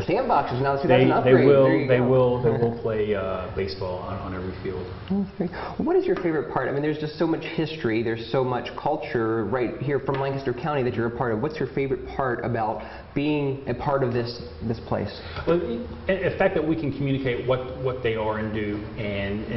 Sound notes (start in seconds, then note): 2.4 chatter